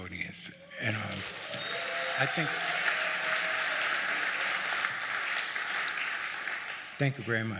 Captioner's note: audience clapping